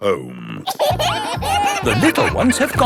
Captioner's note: kids giggling